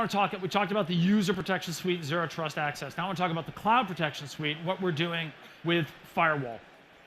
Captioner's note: applause